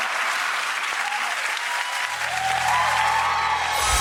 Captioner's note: audience cheering